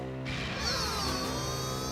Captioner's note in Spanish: enojado